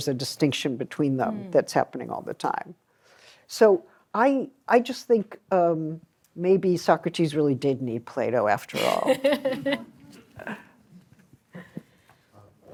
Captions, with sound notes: a distinction between them that's happening all the time. So I just think maybe Socrates really did need Plato after all. [LAUGHTER]